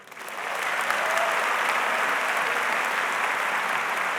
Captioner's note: audience applauds